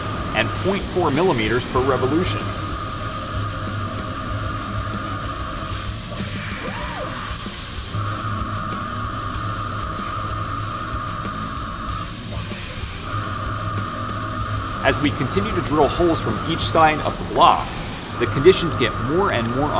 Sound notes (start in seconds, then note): 3.2 machining noises